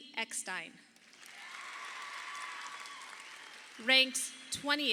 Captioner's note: audience applauding